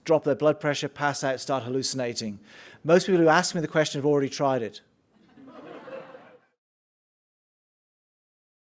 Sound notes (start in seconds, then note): 5.2 audience laughing